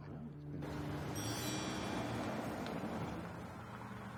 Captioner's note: car revving